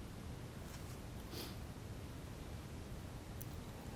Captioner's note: sniffling